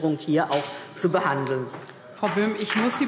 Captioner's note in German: Beifall DIE LINKE